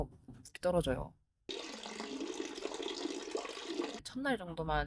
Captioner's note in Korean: 물 떨어지는 소리